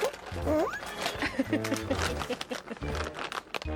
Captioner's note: rustling sound...?